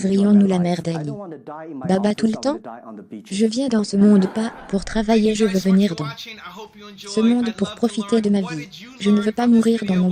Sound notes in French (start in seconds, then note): 4.0 rires